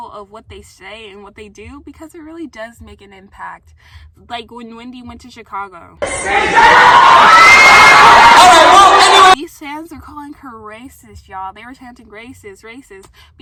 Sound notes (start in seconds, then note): 6.0 people shouting